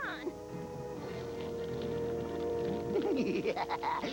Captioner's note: crac